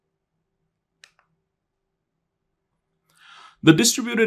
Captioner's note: remote clicking